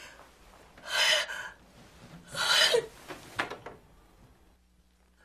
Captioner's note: whimpering